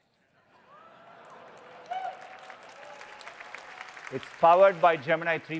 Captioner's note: audience laughing and applauding